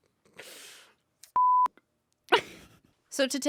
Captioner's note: beep; laughs